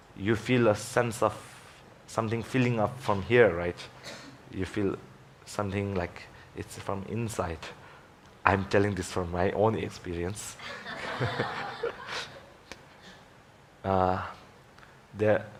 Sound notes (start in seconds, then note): 10.6 laughing